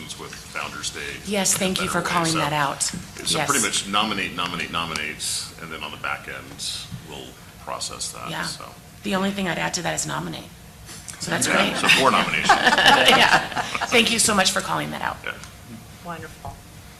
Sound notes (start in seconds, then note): 12.9 board laughing